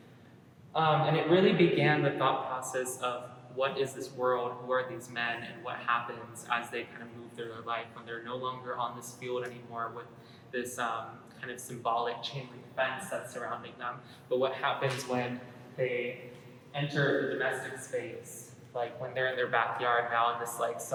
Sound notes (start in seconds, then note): none